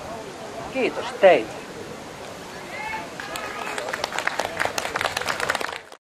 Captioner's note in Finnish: Aplodeja